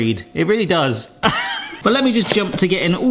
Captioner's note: laughs